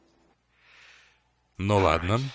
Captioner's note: sighs